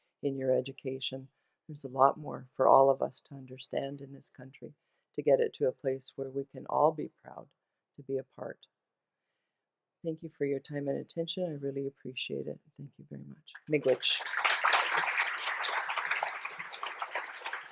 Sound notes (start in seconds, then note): 16.7 applause